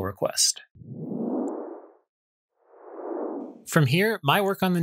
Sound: whooshing sound

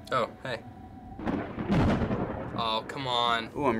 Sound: thunder rumbling

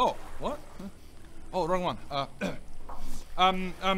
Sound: cough

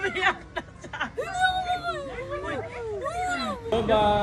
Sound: Melai laughs; cries

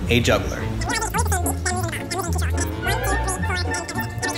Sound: rewinding tape

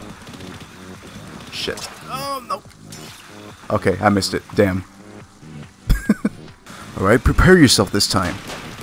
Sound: laughs

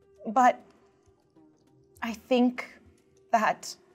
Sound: none

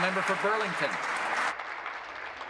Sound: applause

